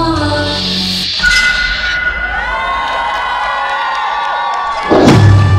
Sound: metallic blade sound; audience cheering; dramatic thud

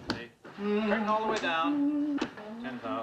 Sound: Henry humming

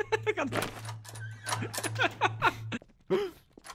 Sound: laughs

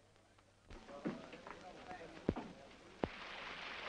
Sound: audience chattering

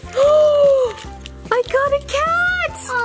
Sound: gasps

